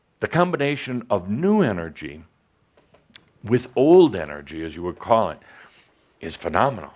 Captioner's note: none